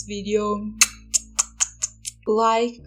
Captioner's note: kiss noises